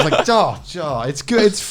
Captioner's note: laughing